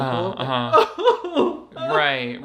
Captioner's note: sobs